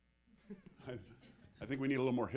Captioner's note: audience laughing